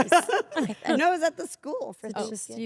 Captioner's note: laugh